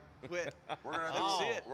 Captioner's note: laughing